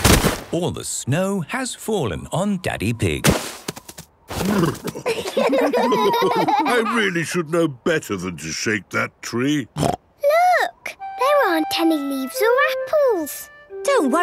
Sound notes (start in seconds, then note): 4.8 laughter; 9.8 snorting